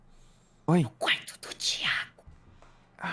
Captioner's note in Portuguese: sussurrando